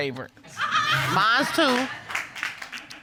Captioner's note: audience laughing